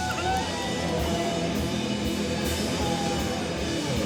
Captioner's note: crowd applauding